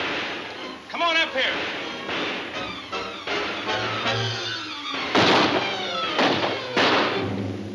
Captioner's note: guns firing; thrilling music